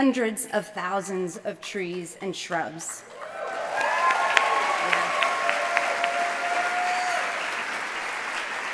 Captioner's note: applause